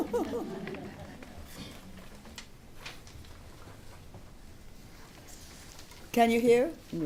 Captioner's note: laughter